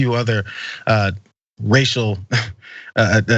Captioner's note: laugh